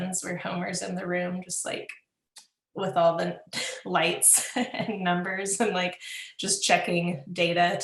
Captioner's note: laughs